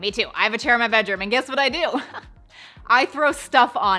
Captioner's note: chuckles